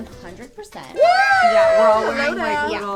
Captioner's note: fake children cheer